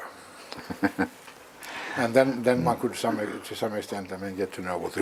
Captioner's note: laugh